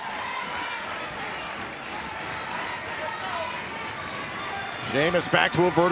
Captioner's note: cheers and applause